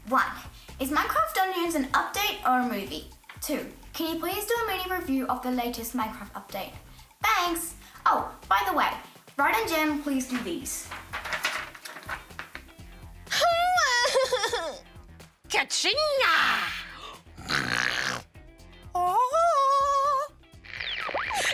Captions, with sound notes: One - is Minecraft Dungeons an update or a movie? Two - can you please do a mini review of the latest Minecraft update? Thanks. Oh, by the way, Rad and Gem, please do these. (WAILS) Kaching-a! (SNORTS) (SINGS ANGELICALLY)